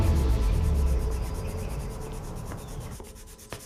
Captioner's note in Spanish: Ruido de lápiz sobre papel